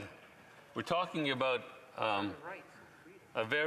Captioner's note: speaking French